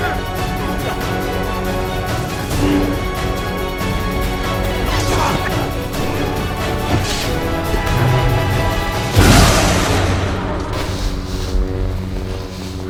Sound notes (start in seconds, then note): 3.8 growling with effort; 5.0 grunting; 9.2 lightsabers sizzling; 9.2 sonic boom